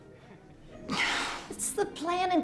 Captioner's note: sighs